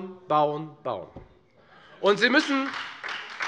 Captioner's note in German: Beifall Freie Demokraten